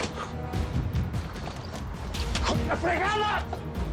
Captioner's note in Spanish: Grito